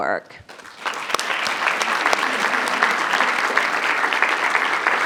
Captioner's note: audience clapping